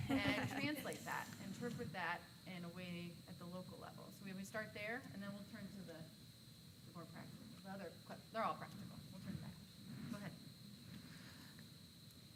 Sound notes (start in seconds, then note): 0.0 laughing